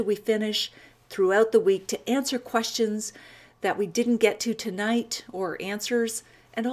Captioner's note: none